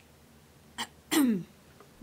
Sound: clearing throat

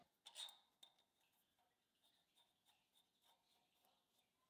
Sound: nut threading

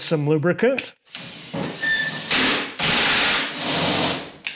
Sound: drill whirs

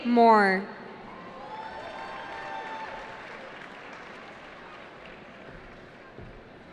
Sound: cheering

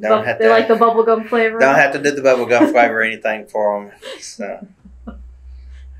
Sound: laughter

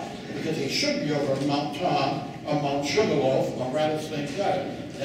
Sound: none

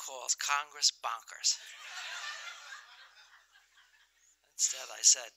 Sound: laughter

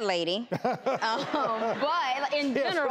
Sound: laughter

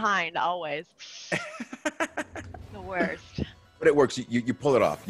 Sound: laugh

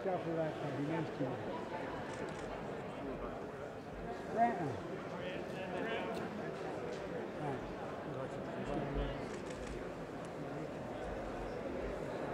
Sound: indistinct chatter

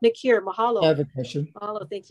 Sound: speaking in foreign language

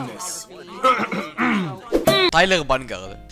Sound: clears throat

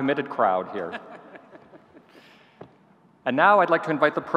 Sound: laughing

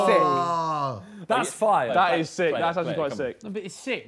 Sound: group chattering

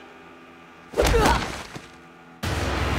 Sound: grunting

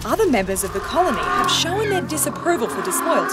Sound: penguins braying

